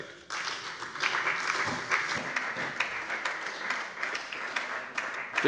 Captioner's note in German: Beifall bei der FDP und bei Abgeordneten der SPD